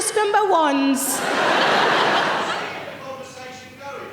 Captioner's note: audience laughing